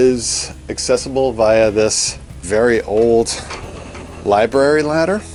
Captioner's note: ladder rumbles across floor